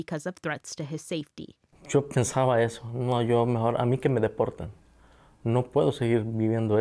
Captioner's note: speaks Spanish